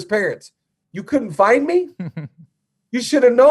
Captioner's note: giggles